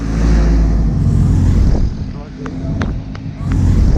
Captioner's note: traffic noise